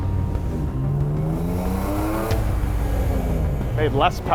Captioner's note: car engine roaring; suspenseful music